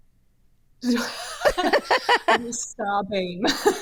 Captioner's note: both laughing